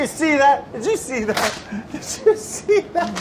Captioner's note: chuckles